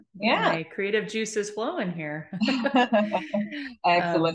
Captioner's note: both chuckling